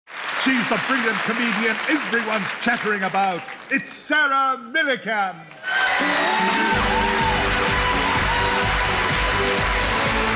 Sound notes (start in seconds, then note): 5.5 audience applauding; 7.6 lively music